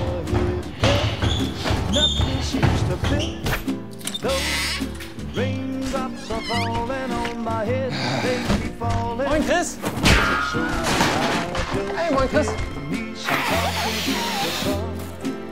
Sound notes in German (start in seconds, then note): 9.7 Wilhelmsschrei